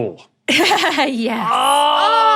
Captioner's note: laughs